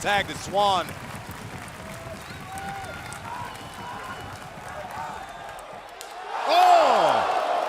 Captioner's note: crowd cheering